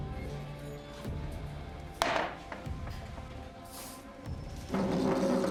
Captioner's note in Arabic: موسيقى متوترة; أصوات الزجاجة